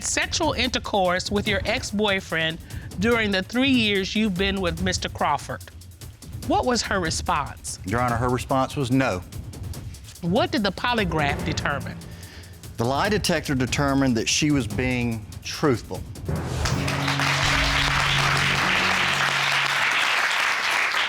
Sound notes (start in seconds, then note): 16.6 applause